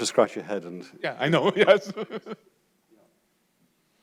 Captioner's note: laughs